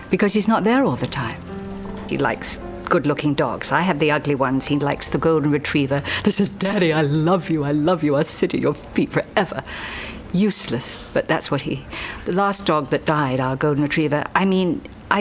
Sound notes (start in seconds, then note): none